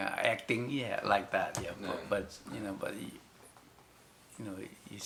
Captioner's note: in English